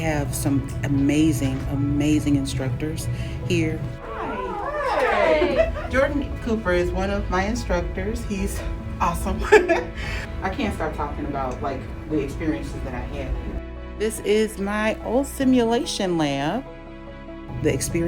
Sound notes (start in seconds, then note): 9.4 laughs